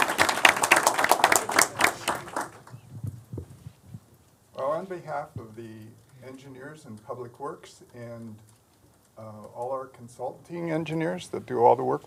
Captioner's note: applause